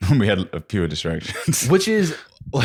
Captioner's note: laughs